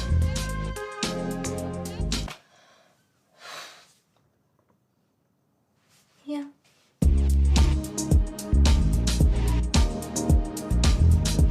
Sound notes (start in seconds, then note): 3.3 big sigh